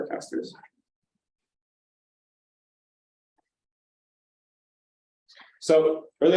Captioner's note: silence